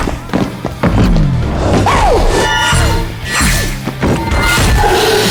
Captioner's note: energy whizzing